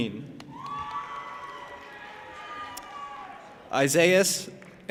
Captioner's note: audience applauding and cheering